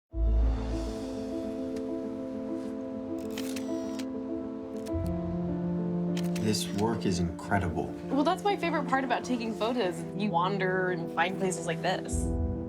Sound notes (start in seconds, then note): 0.0 dramatic piano music playing; 3.2 camera clicks; 6.2 camera clicks